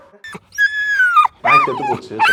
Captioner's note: dog Mewls